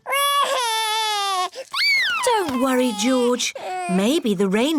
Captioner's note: cries